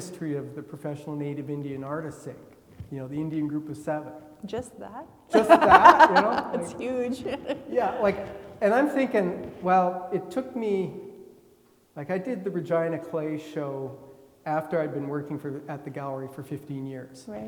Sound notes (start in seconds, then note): 5.3 laughing